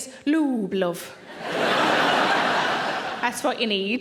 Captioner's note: audience laughing